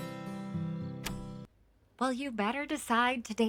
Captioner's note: door bangs